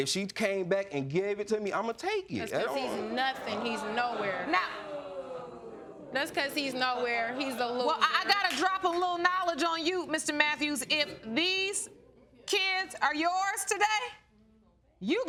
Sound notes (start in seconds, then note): 5.2 audience booing